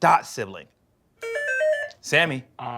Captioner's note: buzzer